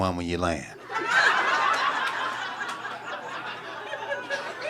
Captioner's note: audience cackling